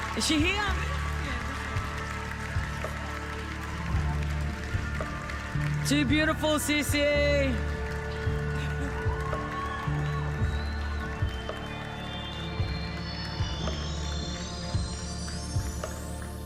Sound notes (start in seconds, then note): 4.4 applause